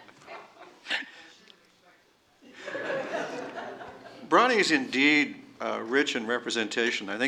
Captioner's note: laughter